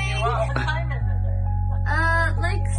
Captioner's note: female Speaker On Phone